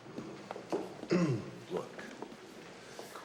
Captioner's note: clears throat